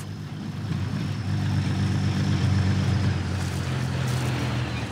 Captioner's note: machinery rumbling